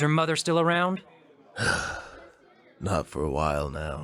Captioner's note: world-weary sigh